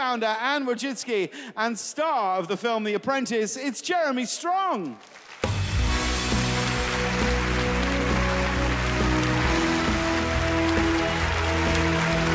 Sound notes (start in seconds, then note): 4.9 audience applauding; 5.5 upbeat music